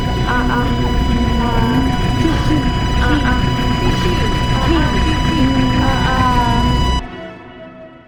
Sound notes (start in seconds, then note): 2.4 chanting continues; 2.4 suspenseful music